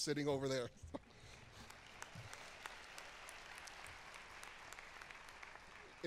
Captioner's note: applause